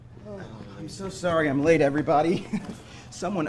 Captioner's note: sighs